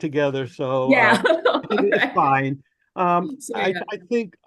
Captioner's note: laughs